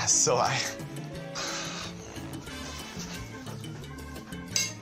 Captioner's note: sighs